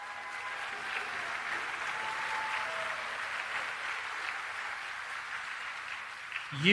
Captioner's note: applause